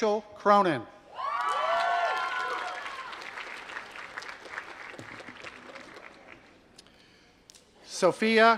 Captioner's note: applause